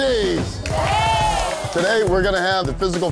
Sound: all cheering

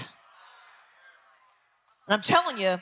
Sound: audience members respond distantly

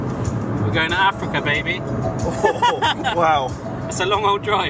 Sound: laughs

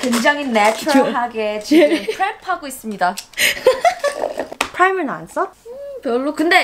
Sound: laughing; speaking in foreign language

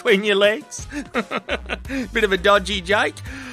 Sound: uncomfortable laughter

